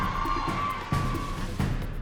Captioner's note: clamoring